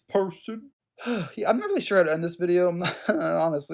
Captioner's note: sighs